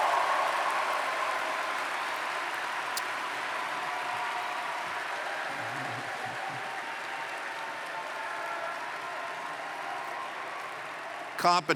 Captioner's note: cheers & Applause